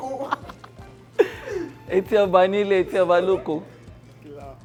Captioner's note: laughs